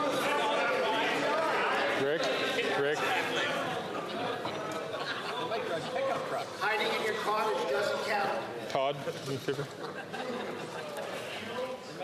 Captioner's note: chatter